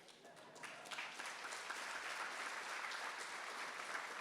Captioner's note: audience applauding